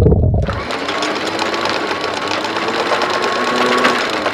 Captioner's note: motor revs